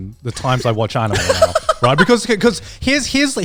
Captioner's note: laughing